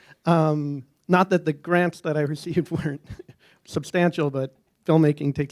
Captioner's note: laughter